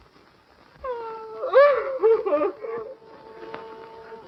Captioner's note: sobbing